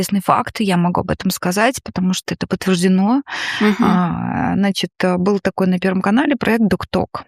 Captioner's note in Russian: вздыхает